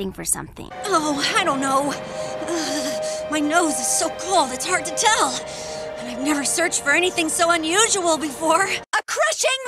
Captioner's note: shiver